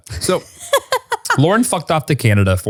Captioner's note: laughs